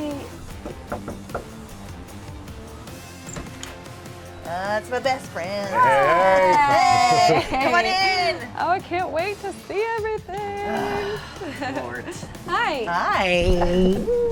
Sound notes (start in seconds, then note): 0.5 hand knocking; 10.6 groans